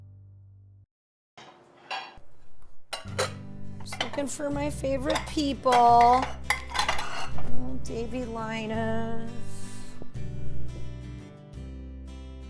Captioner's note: plates clatter